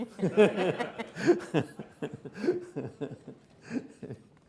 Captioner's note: everyone laughs